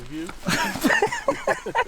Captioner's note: laughing